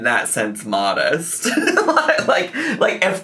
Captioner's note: laughing